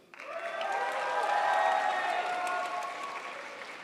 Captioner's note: crowd applauds